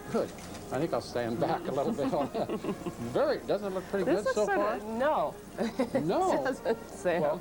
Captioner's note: laughing; laughing